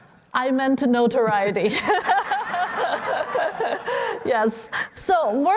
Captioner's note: laughter